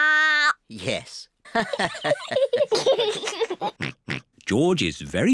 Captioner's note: all laugh